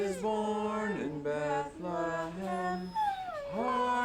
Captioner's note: dog wining